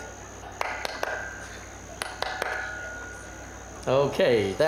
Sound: clapping hands loudly

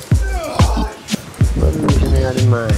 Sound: groan of exertion

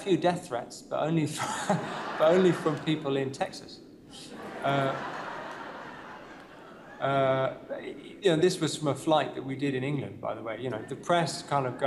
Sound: laughter; laughter

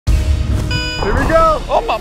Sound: dramatic music; ding

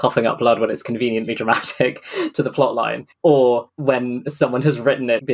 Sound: laughs

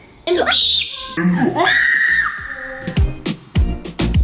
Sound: screaming

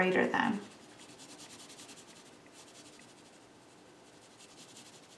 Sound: pencil scribbling

